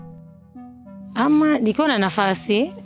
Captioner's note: she speaks her language